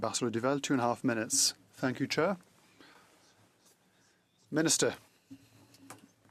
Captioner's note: speaking French